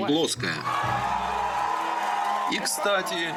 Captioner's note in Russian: одобрительные крики